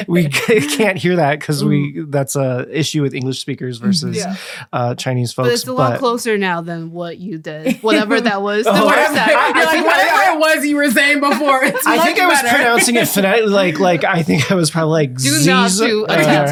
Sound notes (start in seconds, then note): 9.3 laughing and overlapping talking